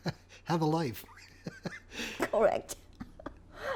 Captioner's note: laughing